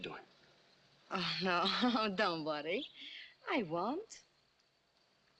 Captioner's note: chuckling